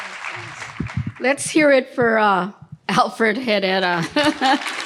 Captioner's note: laughing